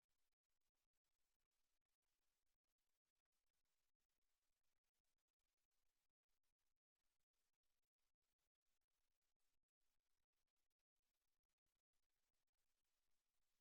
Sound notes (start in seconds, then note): none